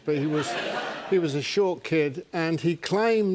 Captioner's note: laughter